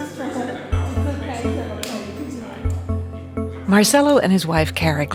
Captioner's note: people chattering